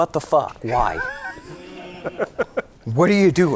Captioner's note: laughing